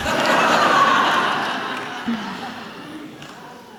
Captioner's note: laughter